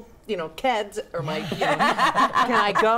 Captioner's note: group laughs